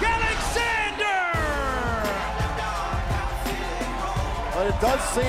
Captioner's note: crowd cheering